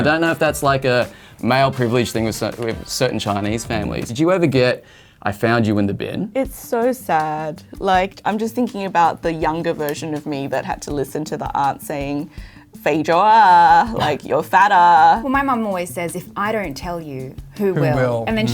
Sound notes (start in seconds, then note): 12.2 speaks Cantonese